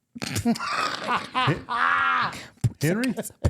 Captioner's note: laughing